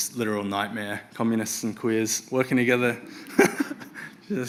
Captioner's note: laughs